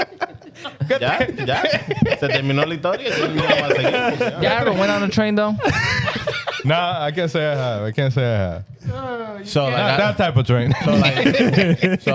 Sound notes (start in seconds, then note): 0.7 speaking In Foreign Language; 10.6 laughing